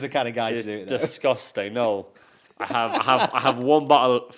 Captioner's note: host laughs